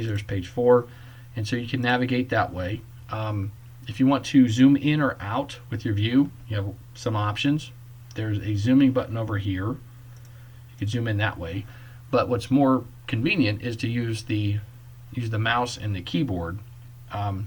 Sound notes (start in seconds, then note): 10.1 click